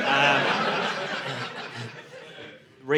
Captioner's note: audience laughing